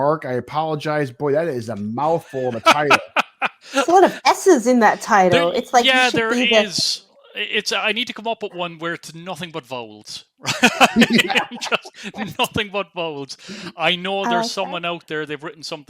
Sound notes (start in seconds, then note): 5.8 laughs; 13.6 laughs